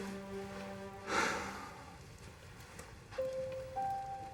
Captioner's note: Alan sighs